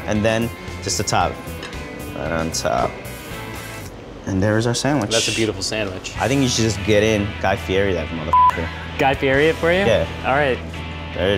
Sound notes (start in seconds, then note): 8.3 beeps